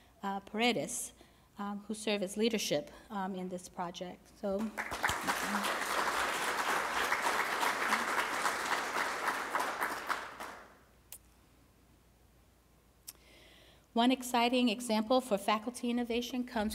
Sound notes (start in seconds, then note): 4.6 applause